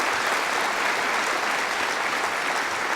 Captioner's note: applause